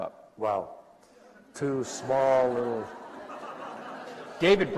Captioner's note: laughter